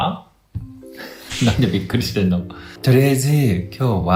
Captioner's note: laughs